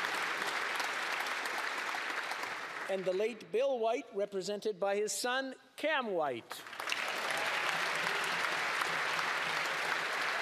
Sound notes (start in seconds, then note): 0.0 applause